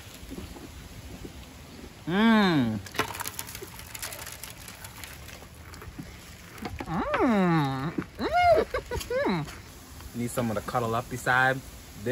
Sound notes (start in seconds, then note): 0.1 chewing; 2.8 chips falling; 5.9 chewing; 7.8 chuckles